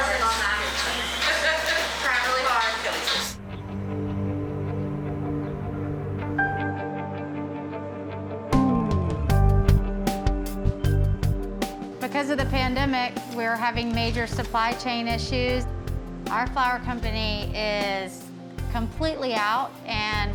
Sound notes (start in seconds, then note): 1.7 chuckles; 3.6 foreboding music